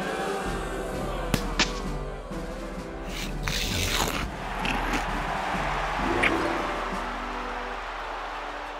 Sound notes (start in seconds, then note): 3.4 crunching